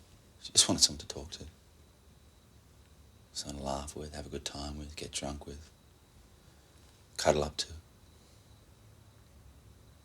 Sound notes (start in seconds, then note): none